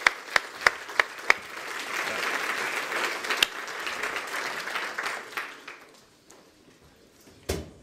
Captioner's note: applause